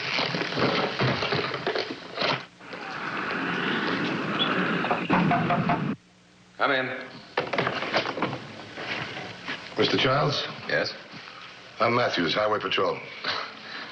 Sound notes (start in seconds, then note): 4.9 knocking